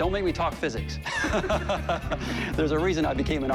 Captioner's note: laughter